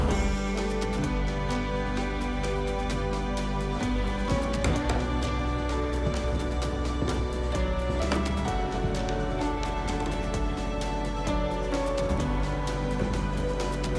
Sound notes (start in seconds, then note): none